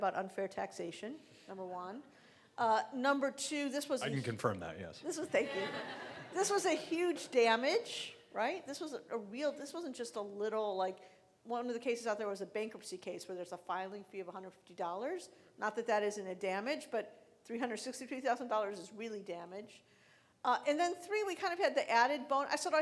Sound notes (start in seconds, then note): 5.3 laughing